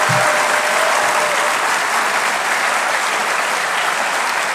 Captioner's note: audience applauds